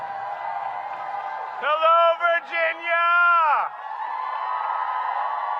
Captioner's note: applause